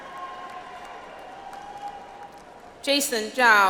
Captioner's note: audience applauds